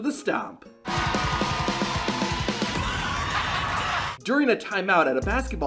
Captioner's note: crowd cheering